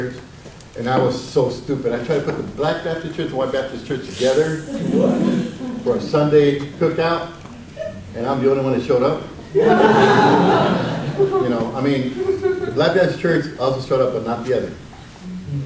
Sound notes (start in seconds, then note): 9.5 audience laughs